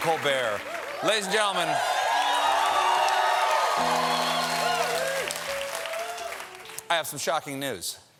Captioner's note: cheers and applause